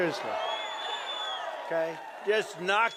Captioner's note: cheering and applause